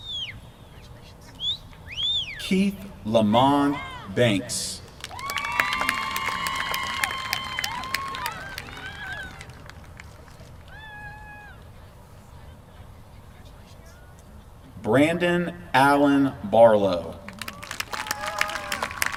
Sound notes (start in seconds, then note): 4.9 applause; 17.2 applause